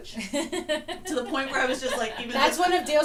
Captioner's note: laughs